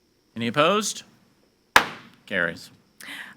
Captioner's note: gavel bangs